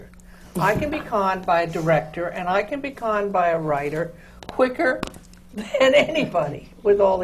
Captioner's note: laughs